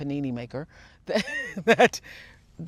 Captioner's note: laughs